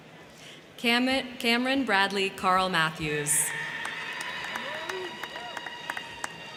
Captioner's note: crowd cheering